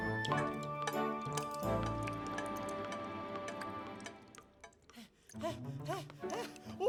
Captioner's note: drips Plopping; Elvis Panting